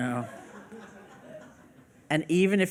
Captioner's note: laughing